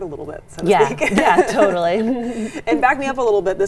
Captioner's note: laughs